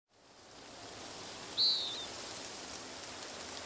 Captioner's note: leaves fluttering